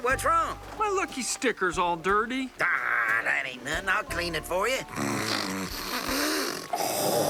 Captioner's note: snorting, hacking